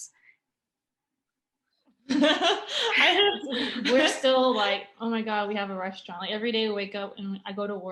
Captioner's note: laughter